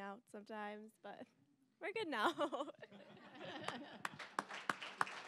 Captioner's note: all laughing; applause